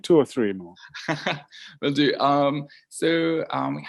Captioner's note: laughs